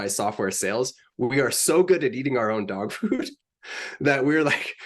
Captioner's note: laughs